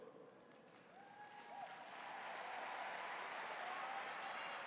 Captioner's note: audience applauding